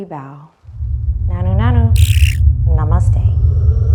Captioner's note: whirring